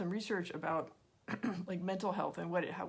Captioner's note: clears throat